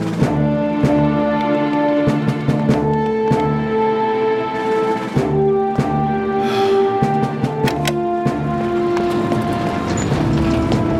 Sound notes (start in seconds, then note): 6.4 sighs; 7.5 hydraulic Whirring; 7.6 click!